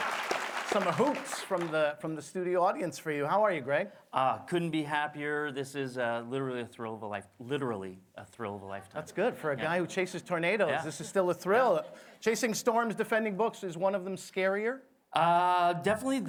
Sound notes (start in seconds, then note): 1.9 applause